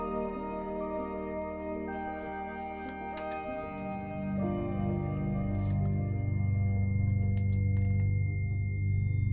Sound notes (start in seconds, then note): 3.6 piercing high-pitched tone over ominous electronic music